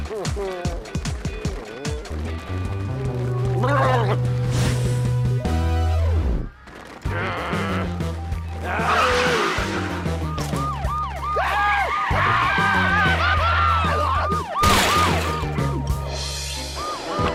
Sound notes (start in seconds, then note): 8.7 siren wailing